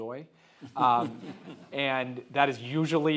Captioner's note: audience laughing